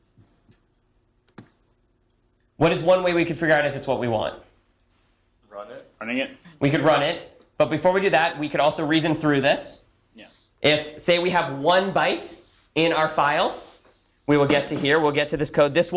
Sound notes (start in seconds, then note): none